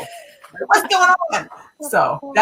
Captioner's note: laughing